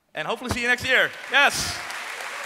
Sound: applause

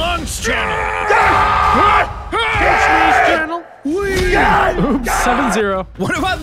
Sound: screams

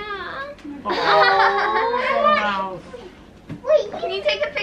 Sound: all laughing

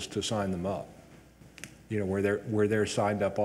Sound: none

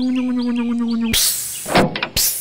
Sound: electric motor hum; click; hiss

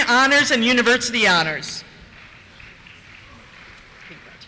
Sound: applause

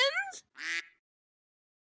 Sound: quack

